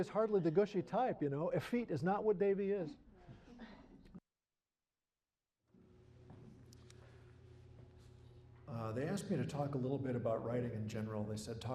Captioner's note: laughter